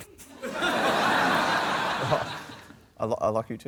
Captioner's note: laughter